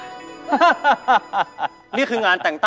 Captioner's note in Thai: เสียงหัวเราะ